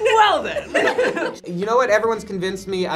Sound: group laughs

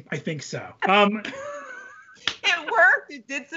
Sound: both laughing

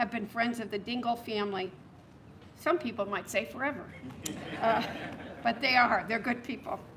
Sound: laughter

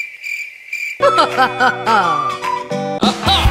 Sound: british ah laugh

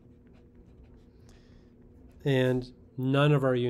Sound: pen scratching

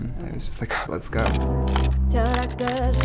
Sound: camera shutter; pop music

